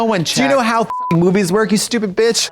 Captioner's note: beep